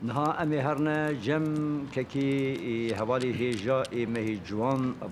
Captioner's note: Speaker continues in Kurdish; speaking in Kurdish